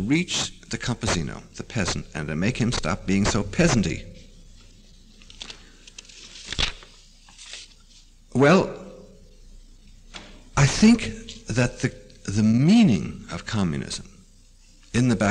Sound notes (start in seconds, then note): 4.8 pause; 5.0 turns page